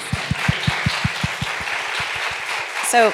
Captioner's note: applause